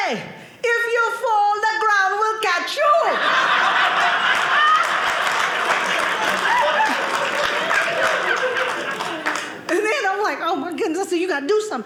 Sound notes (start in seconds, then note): 2.9 audience laughing